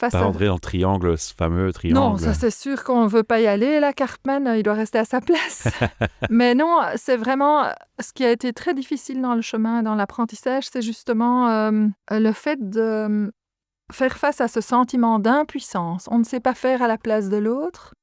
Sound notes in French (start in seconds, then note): 5.5 Rires